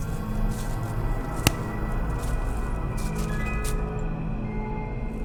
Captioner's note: twig snaps